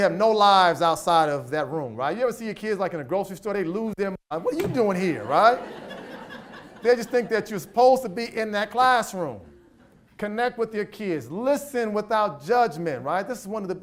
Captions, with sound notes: They think we have no lives outside of that room, right? You ever see a kid like in a grocery story, they lose their minds, what are you doing here, right? (audience laughs) They just think that you're supposed to be in that classroom, connect with your kids, listen without judgment, right,